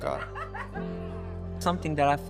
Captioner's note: student cackling